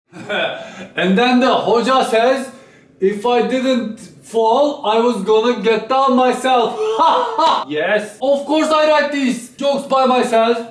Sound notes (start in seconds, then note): 1.1 very thick accent